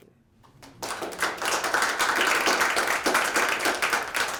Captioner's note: applause